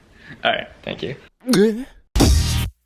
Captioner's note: gugh; outro Music